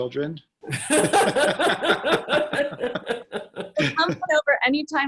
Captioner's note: all laughing